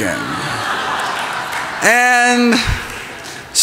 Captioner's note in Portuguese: risos, aplausos